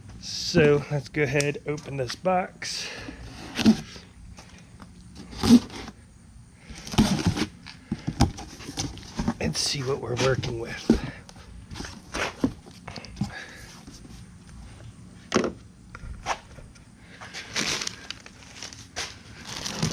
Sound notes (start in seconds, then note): 5.2 cardboard cutting; 11.6 feet shuffling; 19.3 paper crackling; 19.7 plastic crinkling